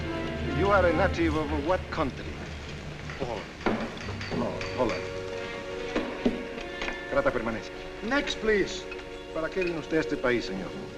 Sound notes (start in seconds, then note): 6.7 officer speaking spanish; 9.2 officer speaking spanish